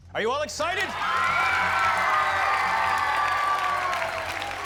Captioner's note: cheers and applause